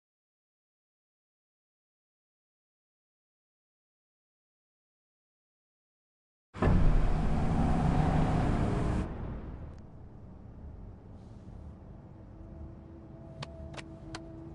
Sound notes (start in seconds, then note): 6.6 engine revving; 11.5 silence